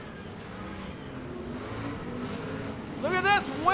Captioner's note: truck engines revving